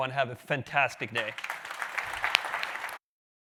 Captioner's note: clapping